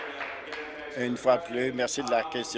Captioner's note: applause